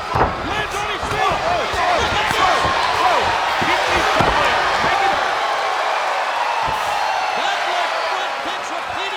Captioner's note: applause